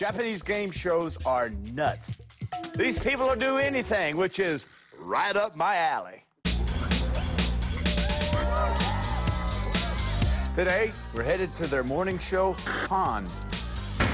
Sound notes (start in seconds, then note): 7.7 cheering; 13.9 upbeat music